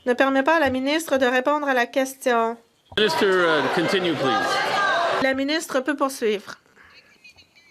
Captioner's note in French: voix de l'interprète